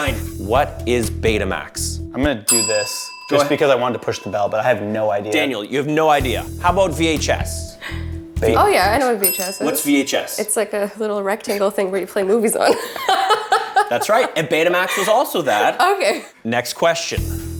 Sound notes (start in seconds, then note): 2.4 bell rings; 12.2 laughs